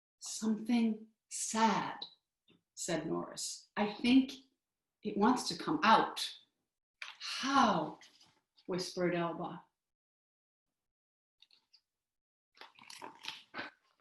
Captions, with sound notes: "Something sad," said Norris. "I think it wants to come out." "How," whispered Elba. (silence)